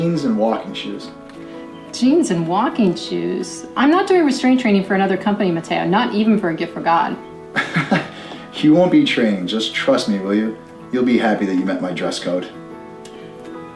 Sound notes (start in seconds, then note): 7.5 Matteo laughing